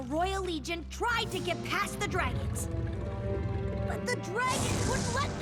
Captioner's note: growling